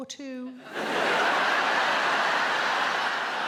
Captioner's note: audience laughs